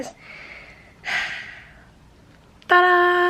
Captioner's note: sighs